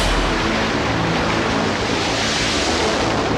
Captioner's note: plane noise